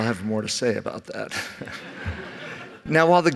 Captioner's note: laughter